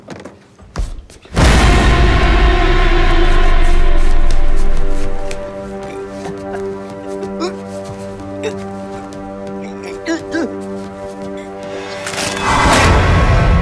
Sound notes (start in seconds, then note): 1.3 music hit; 6.8 struggle and choking